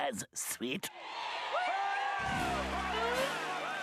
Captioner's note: audience cheering